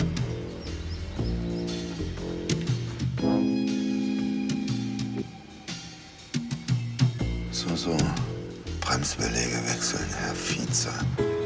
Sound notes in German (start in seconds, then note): none